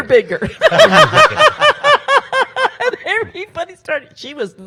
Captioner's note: panel laughs